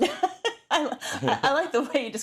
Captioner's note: laugh